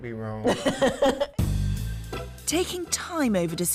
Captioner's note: both laughs